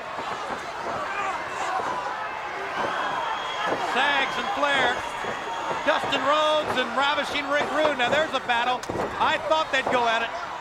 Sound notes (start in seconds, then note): 1.1 crowd yelling; 2.2 wrestlers grunting